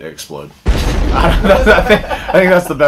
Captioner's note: bomb exploding; laughter